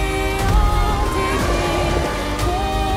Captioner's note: roaring